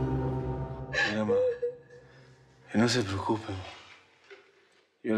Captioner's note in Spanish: sollozos